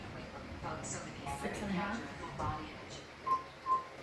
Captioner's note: sarcasm